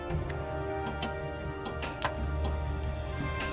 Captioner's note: dramatic Pinball Sounds